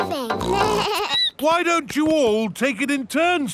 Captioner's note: snorts; bleats